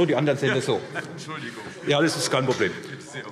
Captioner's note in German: Heiterkeit - Ministerpräsident Boris Rhein: Entschuldigung!